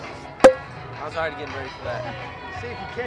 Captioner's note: bottle top popping